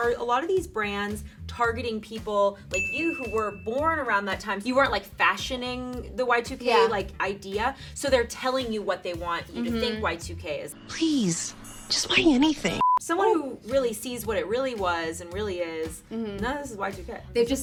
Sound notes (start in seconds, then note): 12.8 beep